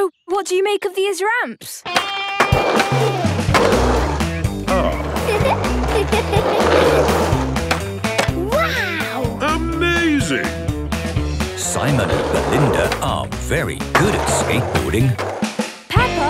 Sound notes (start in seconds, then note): 2.3 rock music; 4.6 giggles